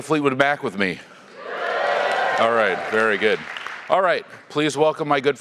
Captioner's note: applause